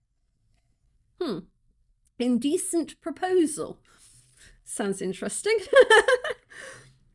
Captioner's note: laughing